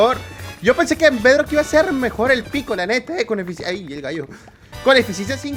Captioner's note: voice crack